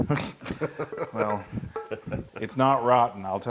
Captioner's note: laugh